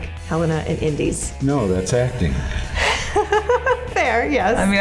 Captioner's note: laughs